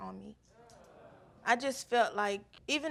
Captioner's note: audience murmurs